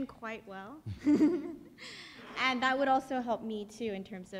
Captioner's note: laughs